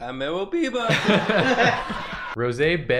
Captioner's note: stock laugh that makes you forget what happened a half a minute ago